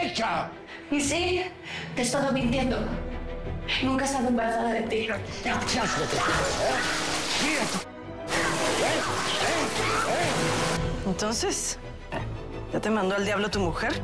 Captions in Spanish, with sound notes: - Y sí, te he estado mintiendo. Nunca he estado embarazada de ti. [Estrépito] - ¡El ------ asco que tienes, ¿eh?! Mira tu ------ asco, ¿eh? - ¿Entonces? ¿Ya te mandó al diablo tu mujer?